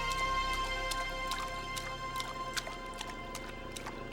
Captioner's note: water splashing